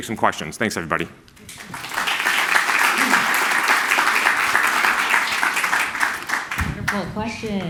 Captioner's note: applause